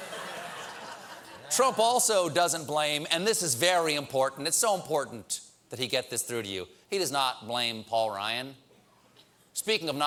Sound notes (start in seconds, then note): 0.0 laughter